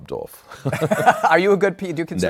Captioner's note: laughter